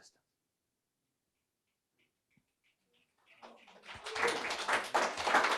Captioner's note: applause